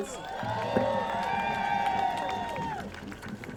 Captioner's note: crowd cheering